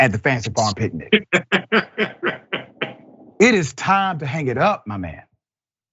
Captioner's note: laugh